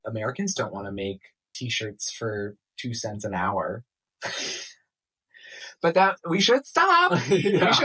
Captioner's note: laughter at the wage slavery